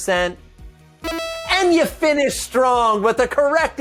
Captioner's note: electronic ding